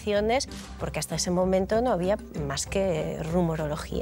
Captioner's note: none